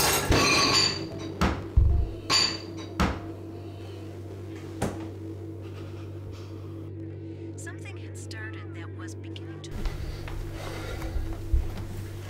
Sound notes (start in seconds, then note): 0.1 dishwasher slams; 7.7 TV playing